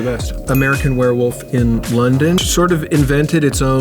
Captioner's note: bell dings